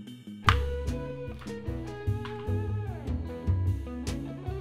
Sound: game piece clicking

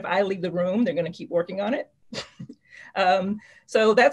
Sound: chuckles

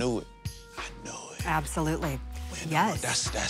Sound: whispering

